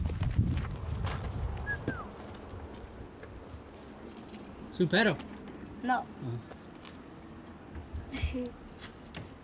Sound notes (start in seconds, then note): 1.6 tuneless whistling